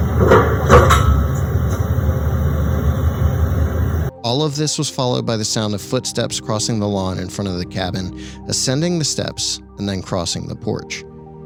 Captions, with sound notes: (rock thudding) All of this was followed by the sound of footsteps crossing the lawn in front of the cabin, ascending the steps, and then crossing the porch.